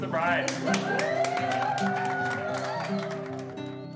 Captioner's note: crowd cheering